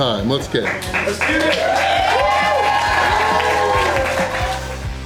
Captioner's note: crowd cheering